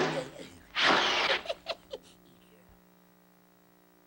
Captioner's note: giggles